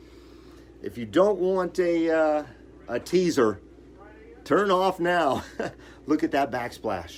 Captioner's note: chuckles